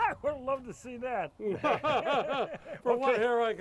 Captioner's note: both chuckling